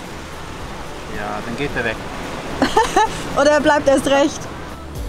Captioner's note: laughing